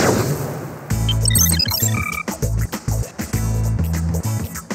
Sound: beeping

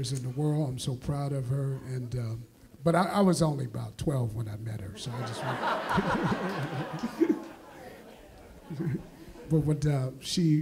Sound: laughs

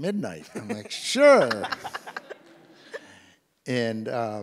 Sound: and the audience laughs

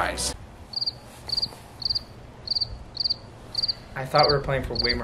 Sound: birds chirping

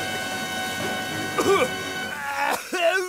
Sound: coughs

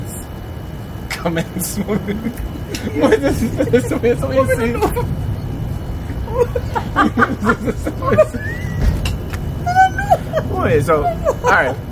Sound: laughing and talking in patois

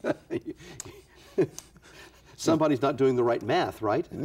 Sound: laughs

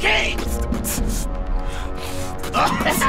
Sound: beat-boxing; laughs

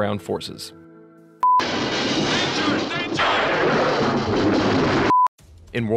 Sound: explosions and indistinct shouting

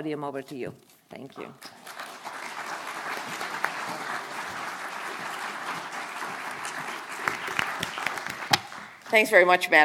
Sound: applause

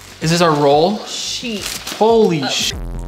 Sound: buzz

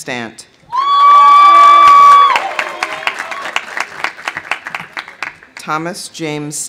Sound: audience cheering; audience applauding

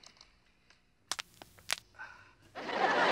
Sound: cracking; audience laughing

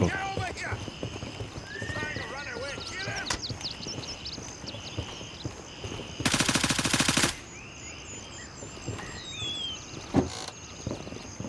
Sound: gunfire

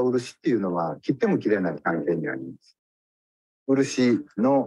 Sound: speaks in Japanese

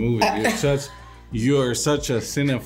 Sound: Emma laughing

